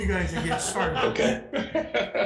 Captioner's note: audience laughs